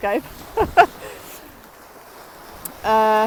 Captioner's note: laughing